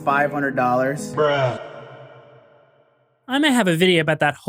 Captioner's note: echoing "bruh"